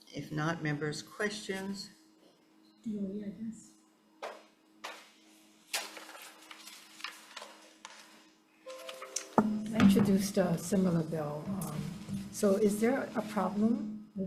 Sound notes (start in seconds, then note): 5.6 paper rustling